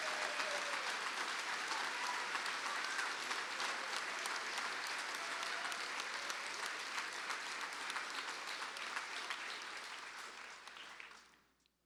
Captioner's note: cheers and applause